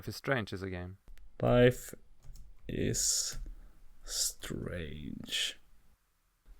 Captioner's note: typing